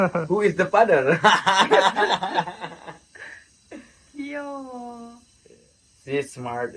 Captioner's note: laughs